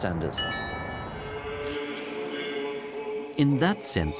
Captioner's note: liturgy in Ukrainian